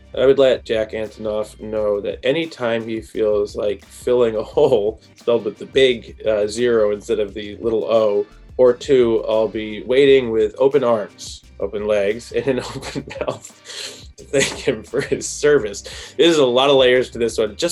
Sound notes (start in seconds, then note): 15.4 laughs